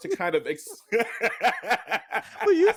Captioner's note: laughing